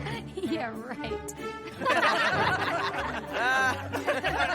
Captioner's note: laughing